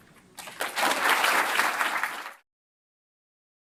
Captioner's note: applause